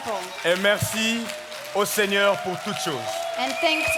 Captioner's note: speaking in French